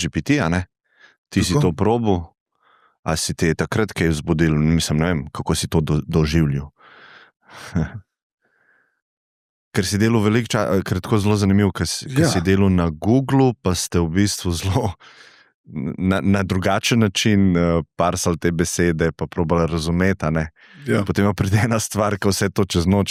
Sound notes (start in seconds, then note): 6.8 gasp; 6.8 sigh